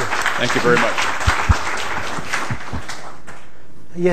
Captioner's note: applause